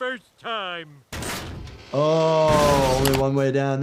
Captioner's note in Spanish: escaleras crujiendo